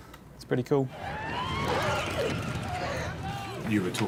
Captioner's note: goblins growling